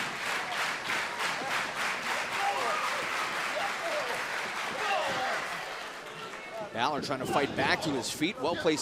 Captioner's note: clapping